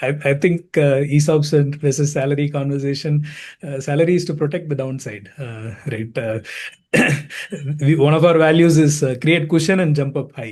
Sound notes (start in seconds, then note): 6.4 coughs